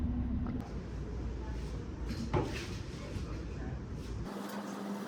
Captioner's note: gym-goers chattering